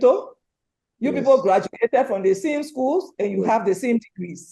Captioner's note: voice muffling